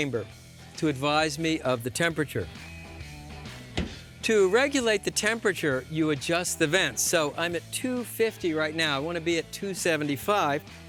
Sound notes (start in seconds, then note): none